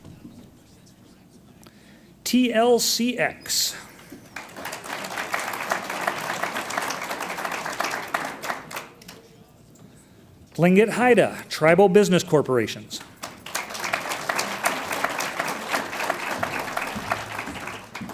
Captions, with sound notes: TLCX. (audience applauds) Tlingit Haida Tribal Business Corporation. (audience applauds)